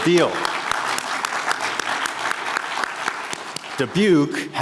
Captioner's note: everyone applauding